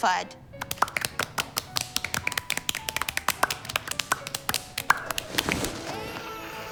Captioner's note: clapping